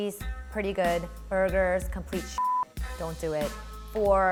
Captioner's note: beep